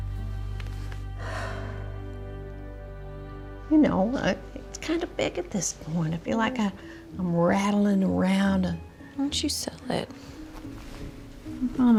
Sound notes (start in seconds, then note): 1.2 sighs